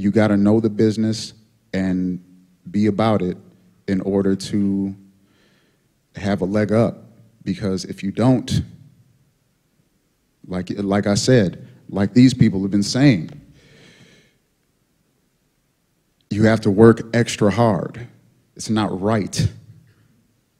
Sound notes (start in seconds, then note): none